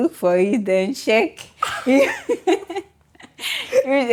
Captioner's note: laughs